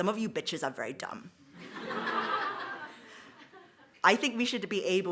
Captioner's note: audience laughs